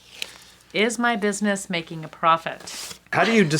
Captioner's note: laughs